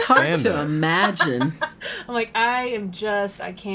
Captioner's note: laughing